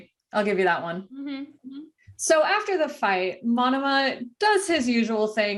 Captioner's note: agree noises